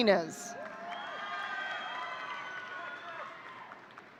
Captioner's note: audience cheering